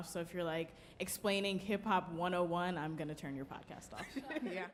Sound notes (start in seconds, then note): 4.1 panelist laughing